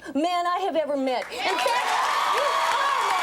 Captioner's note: audience cheers and applauds